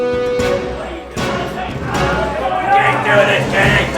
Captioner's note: men clamor